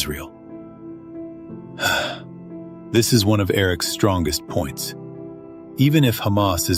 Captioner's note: sighs